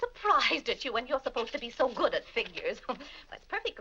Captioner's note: laughs